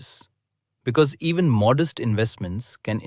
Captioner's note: thoughtful